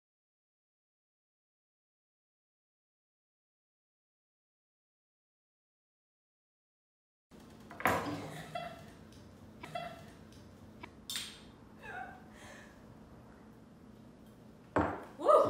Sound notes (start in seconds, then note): 7.5 glass clink; 8.0 laughter